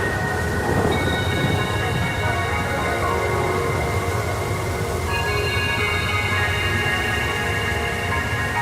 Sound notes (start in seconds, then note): 0.0 thunder cracks; 4.2 wind blows